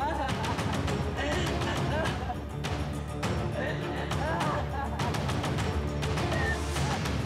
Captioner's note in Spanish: llanto convulsivo de berta